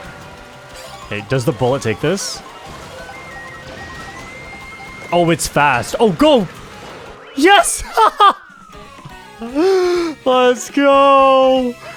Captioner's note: laughs